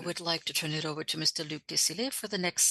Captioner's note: speaking French